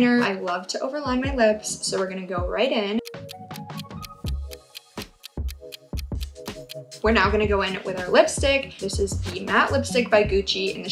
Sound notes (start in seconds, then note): 3.0 clock ticking